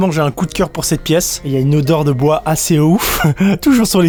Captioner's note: laughs